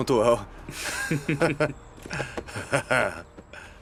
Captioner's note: laughing